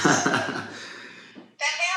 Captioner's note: chuckling